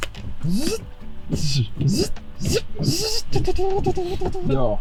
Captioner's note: Making Turbosierra noises